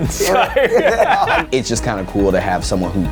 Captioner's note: both laughing